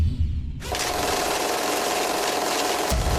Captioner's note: film rolling